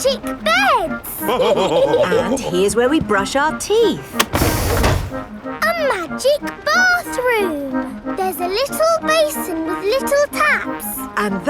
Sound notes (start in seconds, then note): 1.2 all laughing